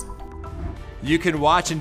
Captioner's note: air whooshes